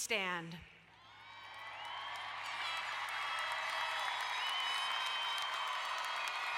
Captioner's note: crowd cheering and applauding